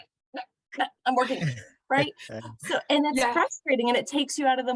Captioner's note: laughter